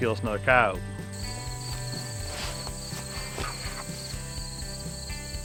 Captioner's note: crickets chirping